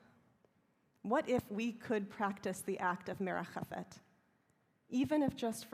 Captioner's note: hebrew